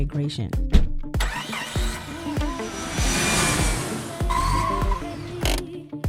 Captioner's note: car engine starting and driving